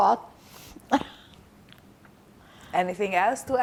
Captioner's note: laughing